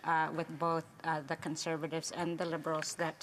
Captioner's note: speaking indigenous language